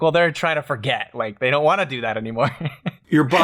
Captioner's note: laughter